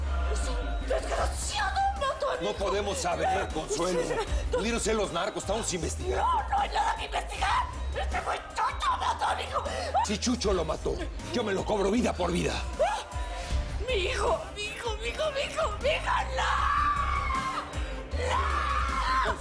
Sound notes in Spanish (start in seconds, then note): 7.2 Llorando